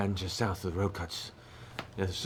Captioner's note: none